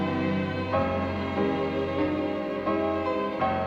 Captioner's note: none